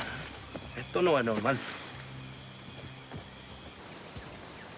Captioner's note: speaking Spanish